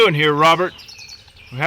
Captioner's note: Bald Knobbers murmur